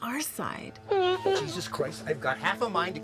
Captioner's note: Eleanor groans